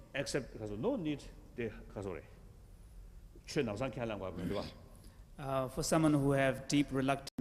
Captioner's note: foreign language